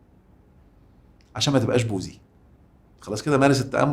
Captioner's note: sarcasm!